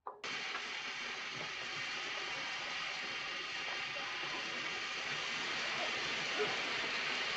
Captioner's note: train chugging